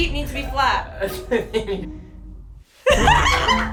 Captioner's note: chuckles; laughs loudly; comical music